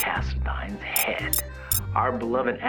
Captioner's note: comments start beeping in